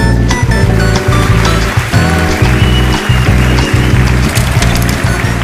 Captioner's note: applause